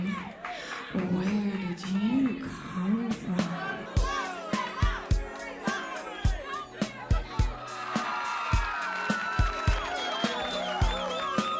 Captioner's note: crowd cheering